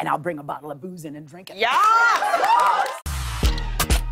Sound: cheers and applause

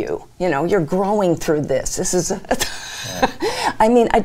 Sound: laughs

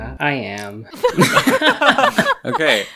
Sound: all Burst Out Laughing

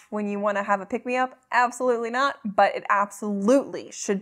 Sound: none

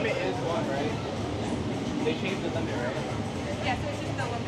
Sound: attendant chattering

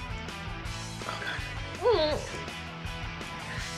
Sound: whispers

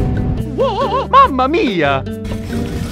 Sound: wavering cry

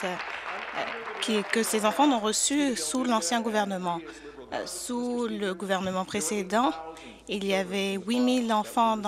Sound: applause

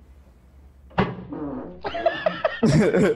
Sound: man farts; laughs

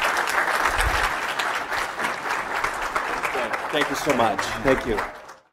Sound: applause

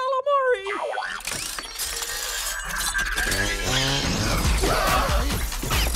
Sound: Robot Beeps And Scooby And Shaggy Scream

